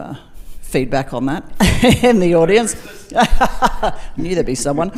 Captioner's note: laughs